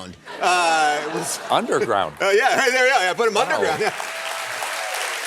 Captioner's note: applause